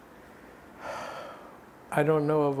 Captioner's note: sighing